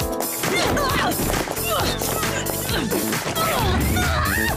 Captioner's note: grunting